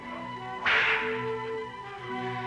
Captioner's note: cracking whip; cinematic classical music